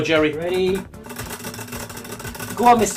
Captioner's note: wheel spinning